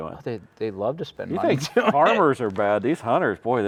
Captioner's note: laughing